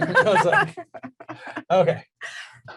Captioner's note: laughs